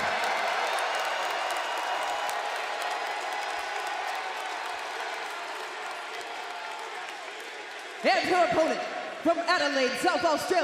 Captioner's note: crowd cheering